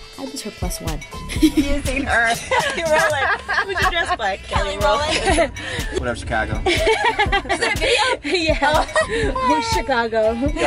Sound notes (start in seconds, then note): 1.2 chatter & laughter; 6.6 laughter